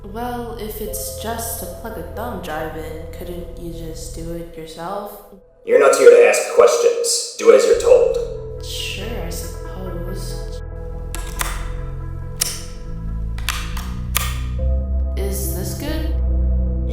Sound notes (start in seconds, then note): 11.2 usb insertion